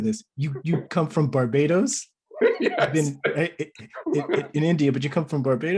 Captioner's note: laughs